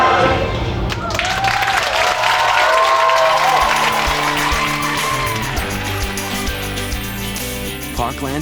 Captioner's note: applause